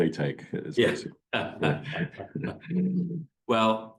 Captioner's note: laughs